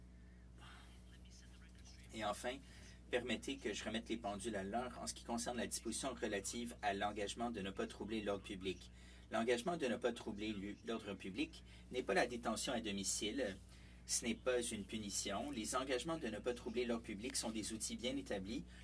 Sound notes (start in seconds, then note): 3.7 speaking French